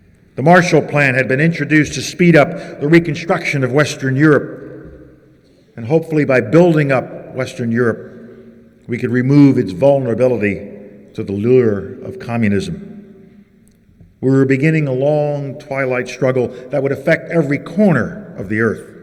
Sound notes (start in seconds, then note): none